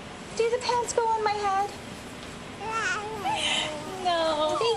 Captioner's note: baby cooing and laughing